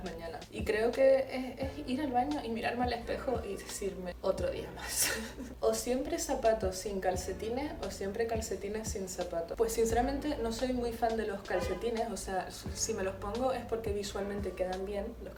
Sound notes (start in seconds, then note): 5.0 laughs but wants to cry